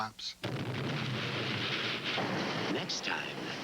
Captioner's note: imploded building collapses